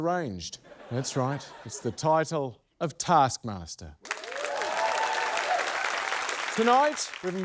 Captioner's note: cheering, applause